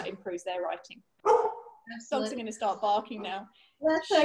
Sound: dog barks

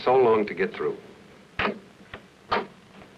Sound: door opening

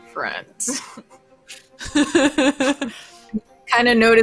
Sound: laughs

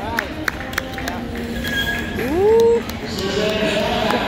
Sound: skate screeching on ice

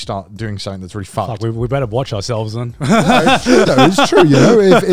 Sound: laughs

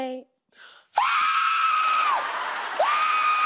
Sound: screams

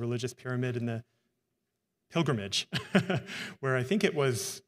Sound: laughs

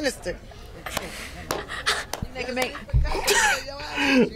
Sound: laughs

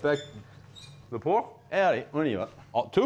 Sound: both speaking French

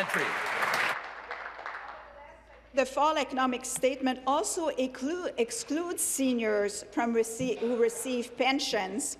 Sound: applause

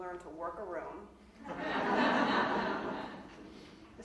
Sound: audience laughing

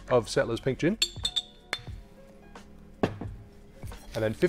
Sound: bottle clanging

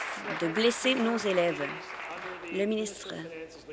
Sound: applause

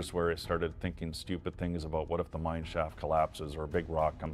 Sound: voiceover

